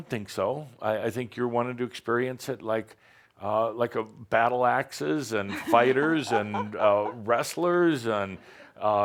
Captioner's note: some chuckles